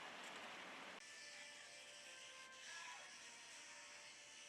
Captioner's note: toothbrush whirring